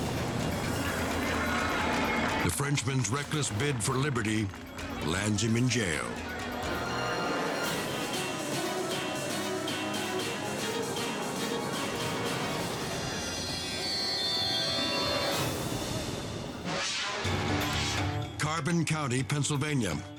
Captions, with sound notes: The Frenchman's reckless bid for Liberty lands him in jail. (dramatic music) (scene swooshing) Carbon County, Pennsylvania.